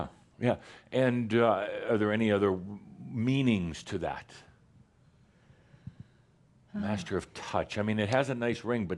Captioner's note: she sighs